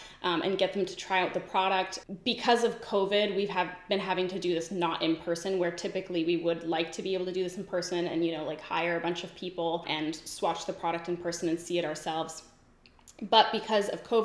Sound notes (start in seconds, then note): none